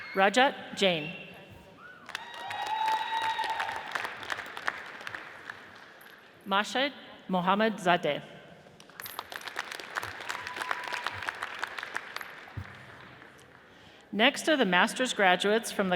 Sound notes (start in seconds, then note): 1.9 audience cheers and applauds; 8.9 audience applauds